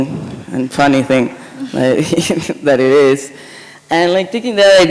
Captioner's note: chuckles